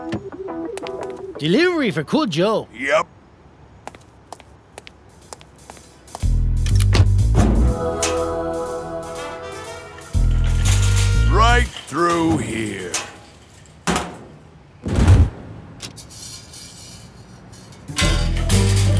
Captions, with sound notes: - Delivery for Cool Joe. - Yup. (soft jazz music) Right through here. (thudding) (sign clattering)